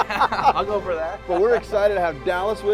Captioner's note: laughing